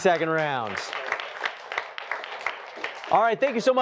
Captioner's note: applause